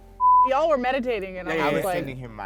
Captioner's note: beep